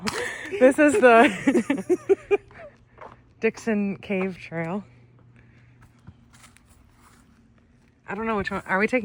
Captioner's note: laughter